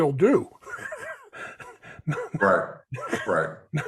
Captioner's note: chuckles